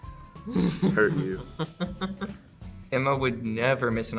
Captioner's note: Joy laughs